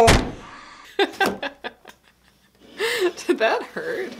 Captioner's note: laughing